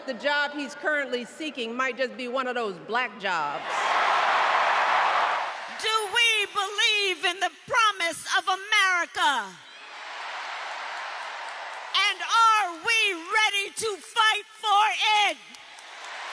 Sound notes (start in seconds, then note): 5.7 applause; 5.7 cheering